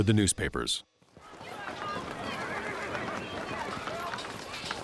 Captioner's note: people clamoring, horse whinnying